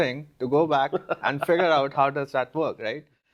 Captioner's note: laughing